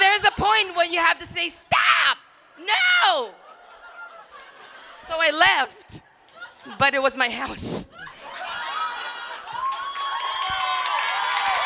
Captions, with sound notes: So what is the point when you have to say stop! No! So I left but it was my house. (crowd cheering)